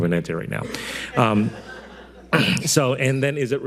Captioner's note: audience laughing